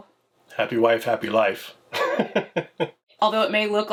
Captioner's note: laughs